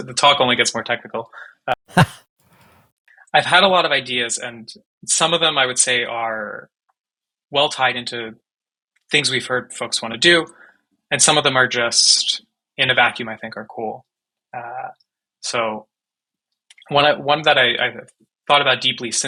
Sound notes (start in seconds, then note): 1.6 chuckles